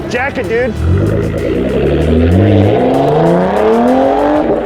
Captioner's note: engine revving